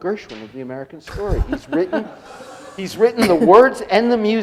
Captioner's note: laughing